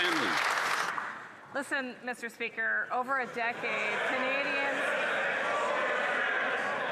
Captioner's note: applause